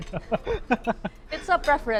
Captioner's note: laughs